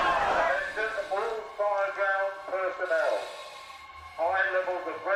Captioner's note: man over speakers